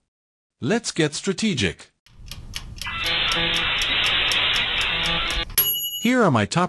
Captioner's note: computer computing sounds; ding